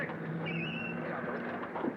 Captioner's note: tires squealing